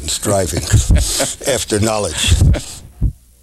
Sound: laughs

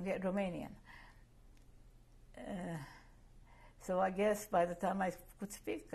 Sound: pauses for 3 seconds

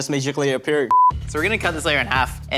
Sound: beep

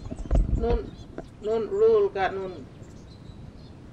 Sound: speaking dalabon

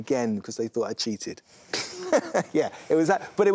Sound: laughs

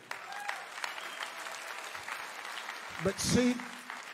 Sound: audience applauds and cheers

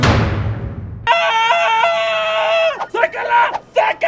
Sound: screams

